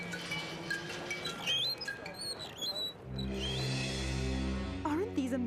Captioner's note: wheels squeaking